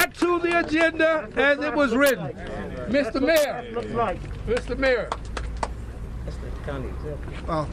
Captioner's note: applause